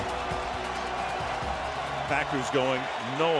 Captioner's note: crowd cheers